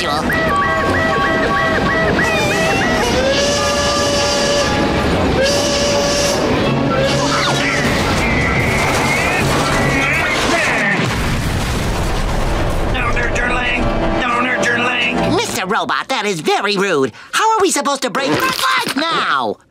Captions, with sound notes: [whistle blowing] [grunting] Don't hurt your leg! Don't hurt your leg! Mr. Robot, that is very rude. How are we supposed to break FRED'S LEG now?